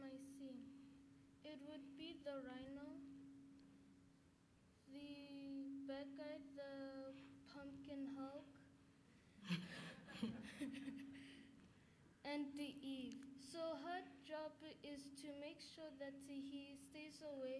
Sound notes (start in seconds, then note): 12.3 laughter